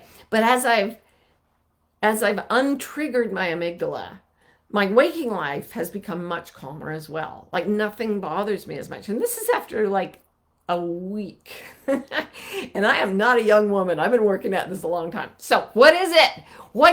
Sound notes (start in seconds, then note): 11.5 chuckling